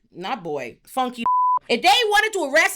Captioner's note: beep